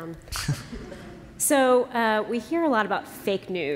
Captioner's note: laughter